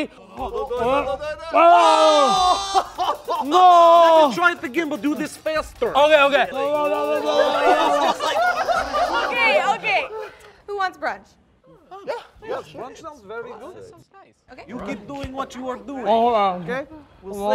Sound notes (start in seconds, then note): 2.6 laughter; 7.1 all laugh